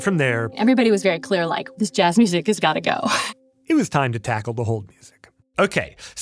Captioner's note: laughs